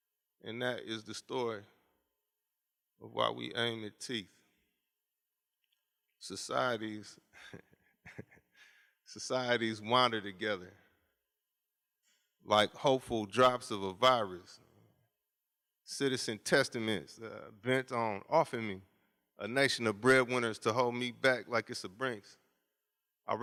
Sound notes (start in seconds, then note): 7.3 laughs